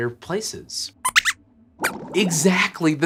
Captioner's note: squeaks squeaks